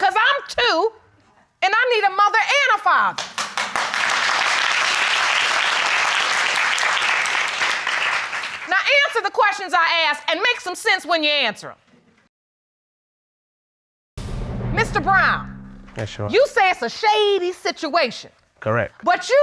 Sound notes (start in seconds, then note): 3.1 applause